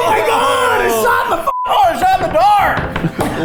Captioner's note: beep